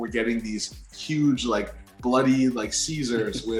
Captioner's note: Nobu chuckles